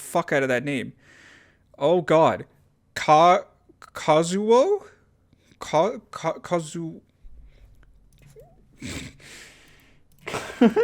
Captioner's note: clears throat